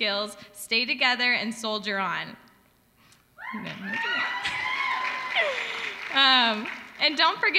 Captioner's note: applause